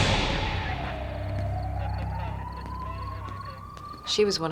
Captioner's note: sirens wailing